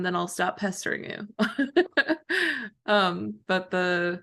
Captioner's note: laughter